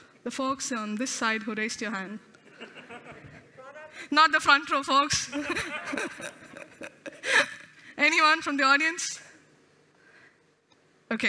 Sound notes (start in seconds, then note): 2.4 laughter; 5.3 laughter